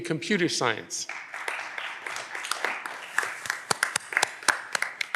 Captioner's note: audience applause